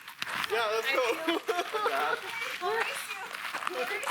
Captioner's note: laughing